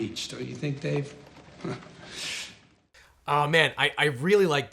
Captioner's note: laughs